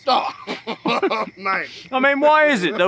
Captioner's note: men chuckling